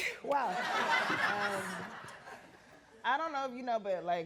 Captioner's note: audience laughing